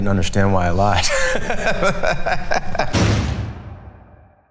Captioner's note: group laughing